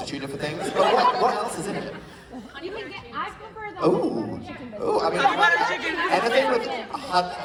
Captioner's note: audience shouting